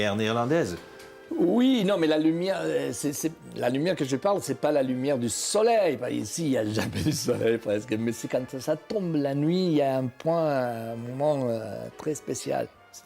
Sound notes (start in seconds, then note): 6.7 laughs